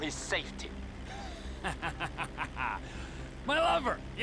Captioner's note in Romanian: Râsete